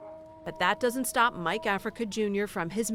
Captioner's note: voice-over